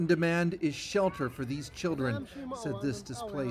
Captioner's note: speaking alternate language